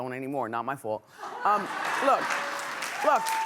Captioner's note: laughing